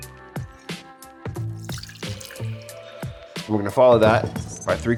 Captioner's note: relaxing music; liquid flowing